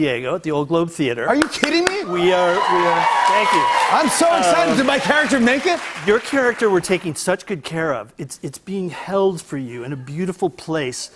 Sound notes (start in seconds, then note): 1.5 cheers and applause